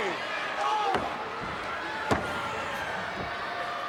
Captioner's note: crowd yelling